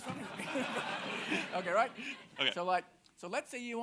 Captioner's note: audience laughing